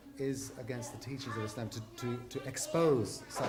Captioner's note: none